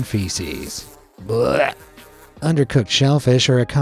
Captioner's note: person retching